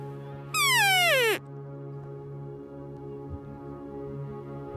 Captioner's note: elk call